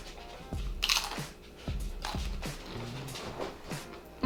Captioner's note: crunching noise